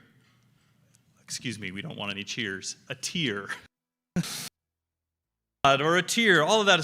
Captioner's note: laughs